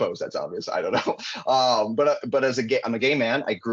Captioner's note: chuckling